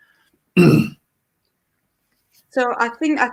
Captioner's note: clears throat